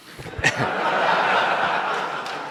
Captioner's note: laughter